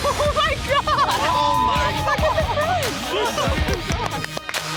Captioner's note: chatter